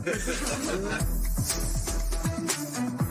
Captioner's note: light laughter